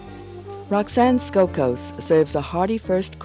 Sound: voiceover

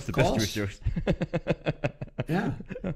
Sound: laughs

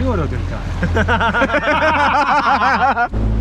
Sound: laughs

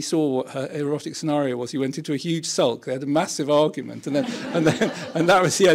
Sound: laughter

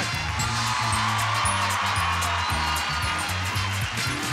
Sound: audience applauding; audience cheering; jazzy music

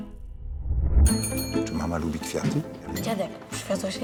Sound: bell dings

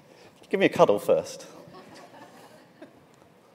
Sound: laughing

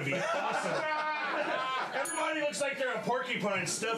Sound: laughter; bell rings

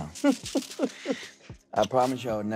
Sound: laughing

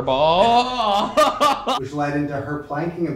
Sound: both laughing

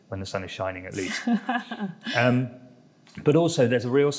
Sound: laughs

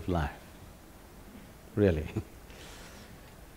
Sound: laughs

